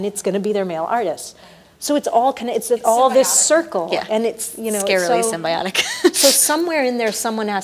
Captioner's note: laughs